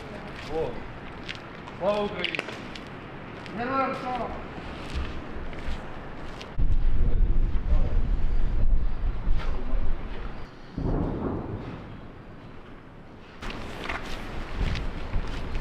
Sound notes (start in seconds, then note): 10.7 explosions heard